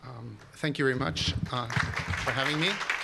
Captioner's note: applause